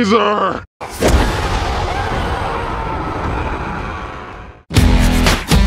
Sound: screams

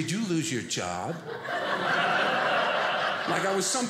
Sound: audience laughing

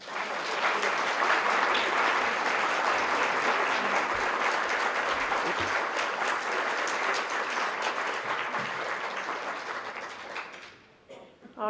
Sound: applause

